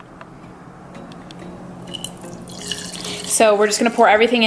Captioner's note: coffee pouring